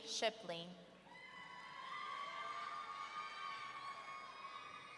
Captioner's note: audience cheering